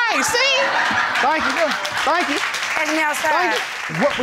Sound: audience laughing and applauding

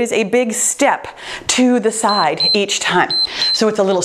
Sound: timer beeps

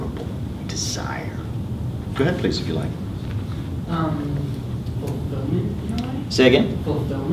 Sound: student murmur

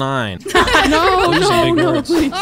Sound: all laughing

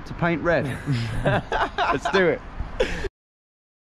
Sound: both laughing

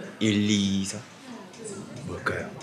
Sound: none

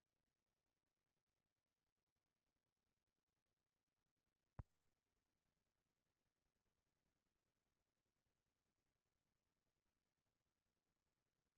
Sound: silence

